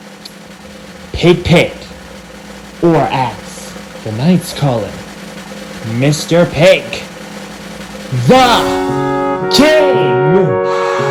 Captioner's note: crowd cheers